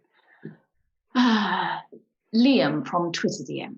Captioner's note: sighs